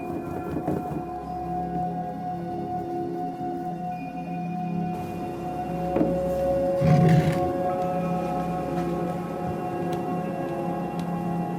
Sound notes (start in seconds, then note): 6.8 ceramic Grinding on Desktop Sound